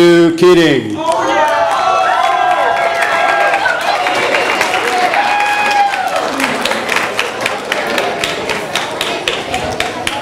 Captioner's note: audience applause